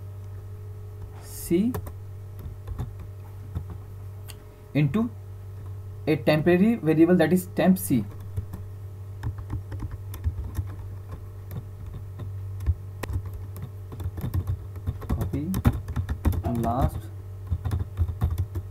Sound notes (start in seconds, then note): 8.5 typing Sound